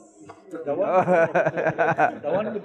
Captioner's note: laughing gently